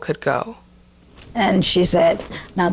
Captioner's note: soundbite of archived recording